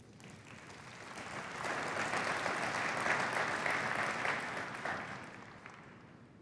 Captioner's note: applause